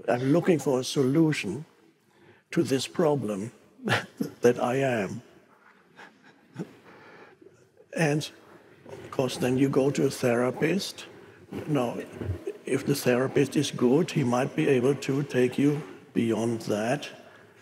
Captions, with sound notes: I'm looking for a solution to this problem that I am." (chuckles) And of course, then you go to a therapist. Now if the therapist is good, he might be able to take you beyond that.